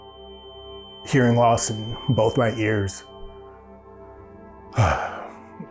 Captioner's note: huffs